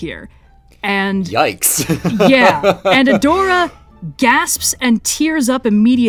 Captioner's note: laughs